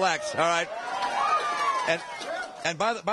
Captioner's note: cheering and applause